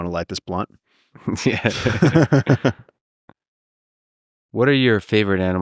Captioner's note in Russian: Пол и Лекс смеются